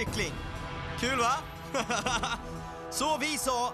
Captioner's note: laughs